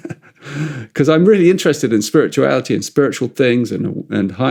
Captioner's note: laughs